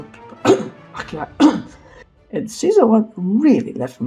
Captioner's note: cough